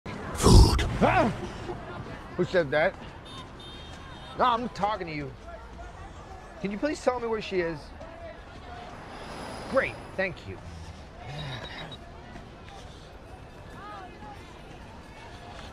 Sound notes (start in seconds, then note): 0.4 yelps; 11.2 sighs